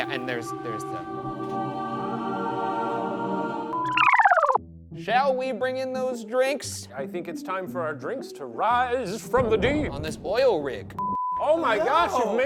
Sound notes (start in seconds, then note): 0.0 dramatic music; 3.8 tape rewinds